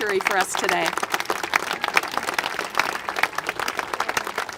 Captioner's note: congregation applaud